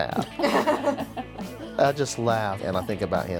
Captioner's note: all laughing